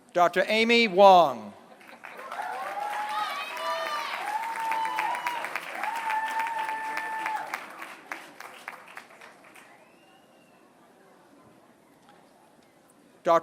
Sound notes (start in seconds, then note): 1.7 applause